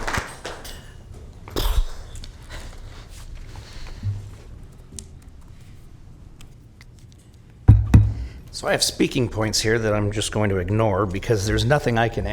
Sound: applause

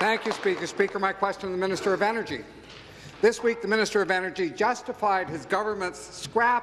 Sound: applause

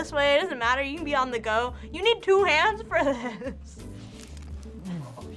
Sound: laughs

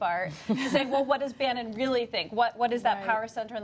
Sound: laughter

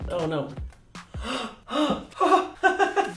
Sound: gasps of relief; light, cheerful laughter

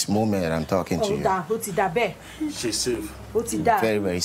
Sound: woman speaking in foreign language

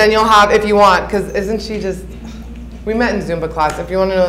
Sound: scoffs

